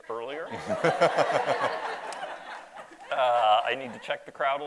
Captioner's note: audience laughs